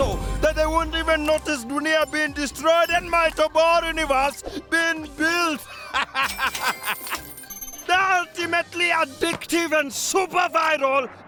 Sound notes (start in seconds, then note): 5.6 laughing